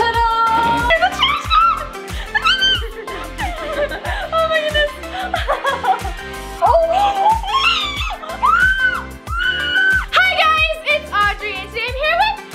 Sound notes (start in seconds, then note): 2.4 squealing; 3.5 laughing; 6.7 squealing